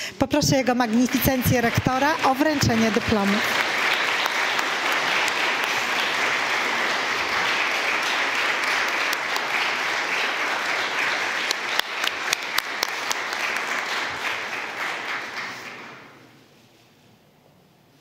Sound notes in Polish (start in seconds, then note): 5.3 oklaski